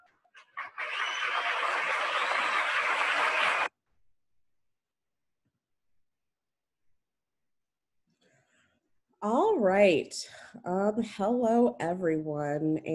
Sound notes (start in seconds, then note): 0.4 audience applauding